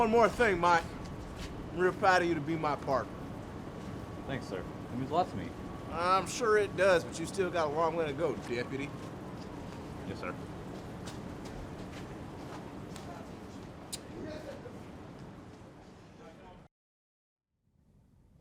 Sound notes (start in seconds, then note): 13.9 kiss